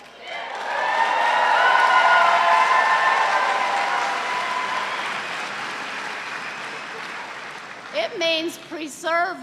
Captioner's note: cheers and applause